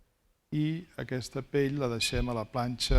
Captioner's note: speaking spanish